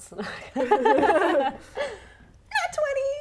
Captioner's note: laughing